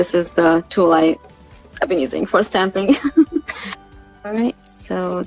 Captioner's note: giggles